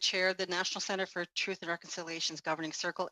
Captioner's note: speaking Indigenous Language